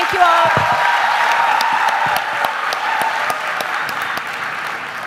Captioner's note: audience applause